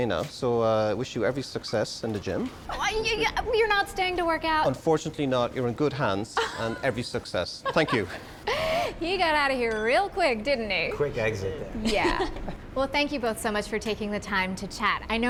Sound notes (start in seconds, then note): 7.6 laughing